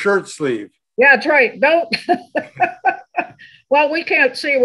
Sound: laughs

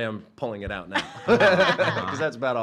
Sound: laughs

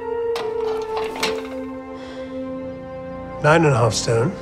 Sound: scale weights whirring

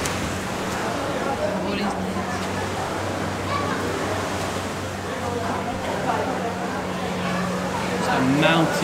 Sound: sound of people talking

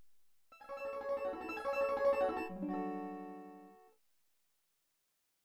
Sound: 16-bit chime playing

